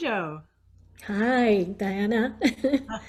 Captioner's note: laughs